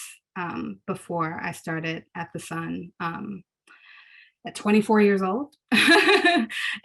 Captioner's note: laughs